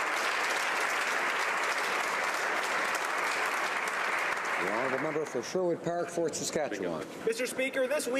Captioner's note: applause